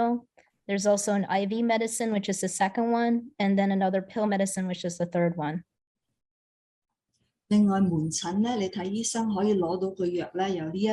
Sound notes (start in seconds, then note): 7.5 non-english speech